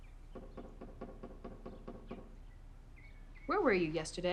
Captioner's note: knuckles knocking